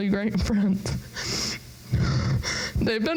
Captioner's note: sobs